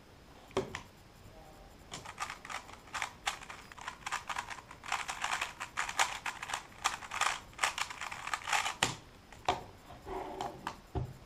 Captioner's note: cube noises